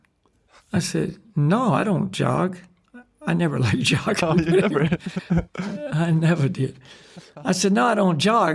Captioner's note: laughs